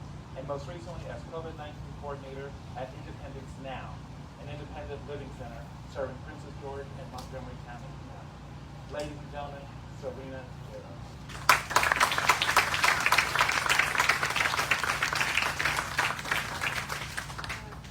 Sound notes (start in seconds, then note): 11.2 applause